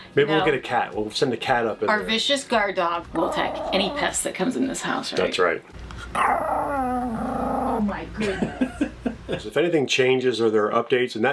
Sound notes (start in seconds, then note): 6.0 dog growling; 8.3 laughing